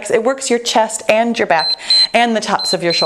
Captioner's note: timer beeps